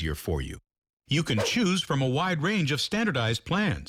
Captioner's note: swoosh